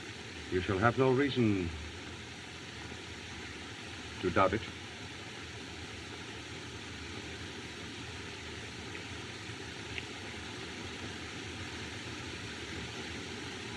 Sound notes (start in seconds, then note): none